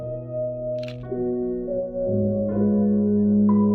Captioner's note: camera clicking